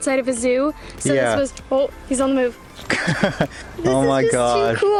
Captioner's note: laughter